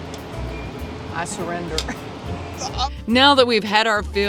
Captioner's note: chuckles